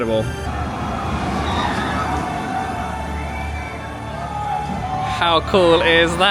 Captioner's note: epic music; riders screaming